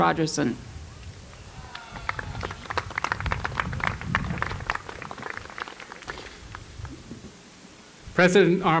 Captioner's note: applause